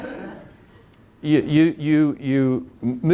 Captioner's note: audience laughing